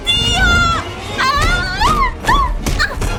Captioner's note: shouting, groaning